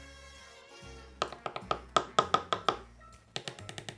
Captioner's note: tapping